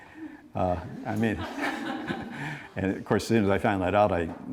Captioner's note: laughing